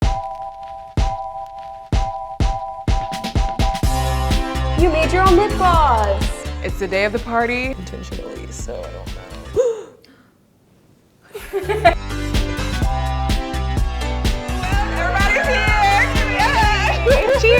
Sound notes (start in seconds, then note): 0.2 upbeat music; 9.5 gasps; 11.5 lively music